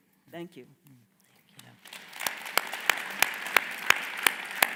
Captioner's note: audience applaud